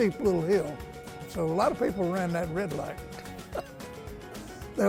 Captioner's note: laughs